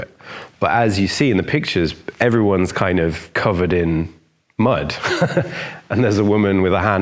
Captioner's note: laughs